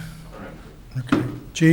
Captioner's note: murmurs